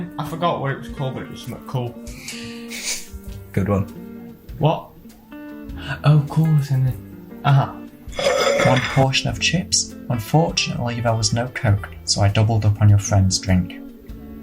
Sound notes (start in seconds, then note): 3.0 chuckles; 8.1 plate slides